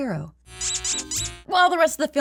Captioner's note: squeak